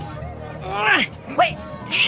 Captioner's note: grunting